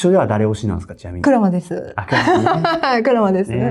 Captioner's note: laughs